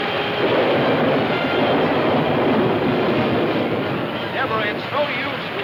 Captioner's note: thunder claps